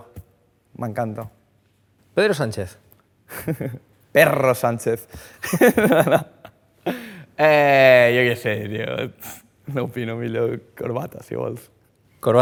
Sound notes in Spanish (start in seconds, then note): 5.5 ríe